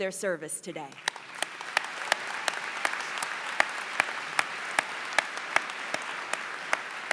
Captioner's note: applause